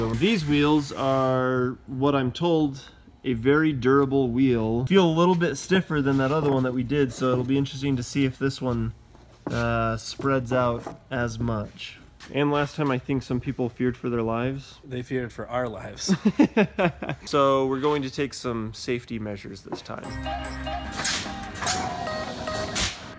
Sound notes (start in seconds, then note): 16.0 laughs; 20.0 techno music